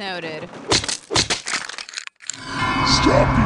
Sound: slapping and crunching

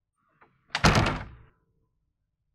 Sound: door closing

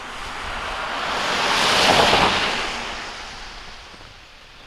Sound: cars zooming

